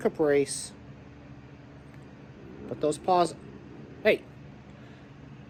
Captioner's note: Caprice growls